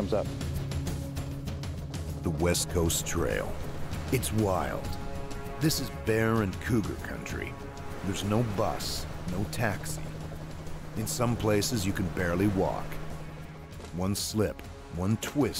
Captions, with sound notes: - All in all it worked out really well. It took about five hours to complete those two, and the weather was somewhat cooperative with us. Now we're ready to go and get back out there again in case something else comes up. (adventurous music) - [Voiceover] The West Coast Trail. It's wild.